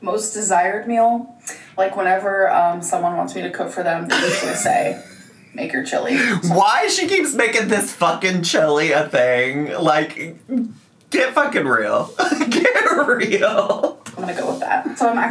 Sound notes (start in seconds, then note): 12.1 laughs